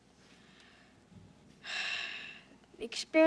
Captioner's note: sighs